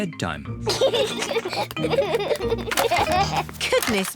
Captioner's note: both giggle